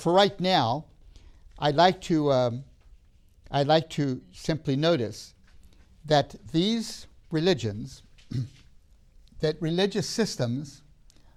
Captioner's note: clears throat